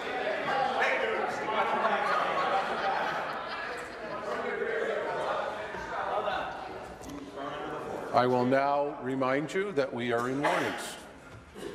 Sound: conversation din

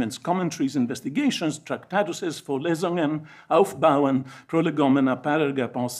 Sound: speaks foreign language

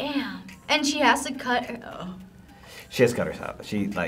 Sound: gasps

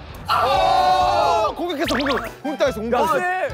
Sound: audiences even more excited

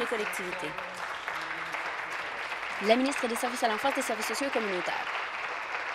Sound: applause

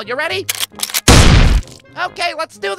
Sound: boom!

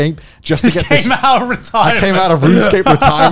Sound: chuckling

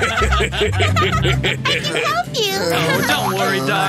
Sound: laughing

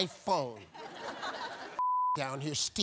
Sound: audience laughing; beep

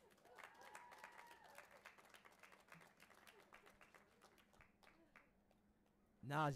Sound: audience applauding and cheering

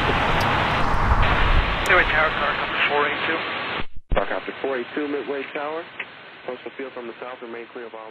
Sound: air traffic chatter

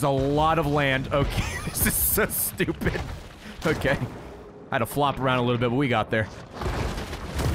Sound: laughs

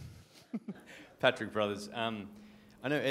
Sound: laugh

